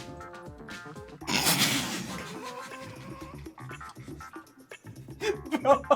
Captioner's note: laughs